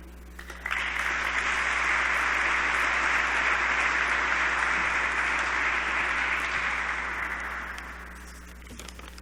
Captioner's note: applause